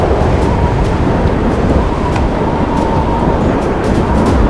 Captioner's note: wind